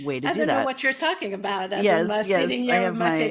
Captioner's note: laughing